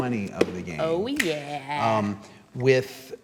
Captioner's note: snaps